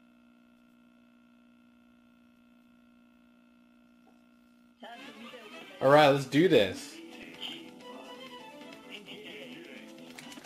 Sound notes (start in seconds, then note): 4.8 character speaking in foreign language; 10.3 controller buttons clicking